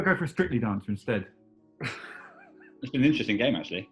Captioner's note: chuckling